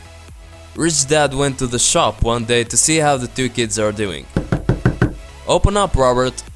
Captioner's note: knock knock